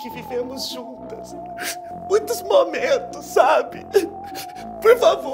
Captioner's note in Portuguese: chorando